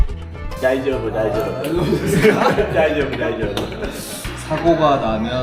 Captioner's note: laughs